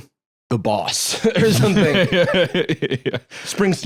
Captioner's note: laughing